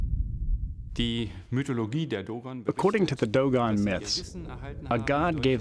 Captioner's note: non-english speech